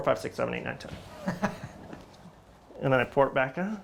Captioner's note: laughs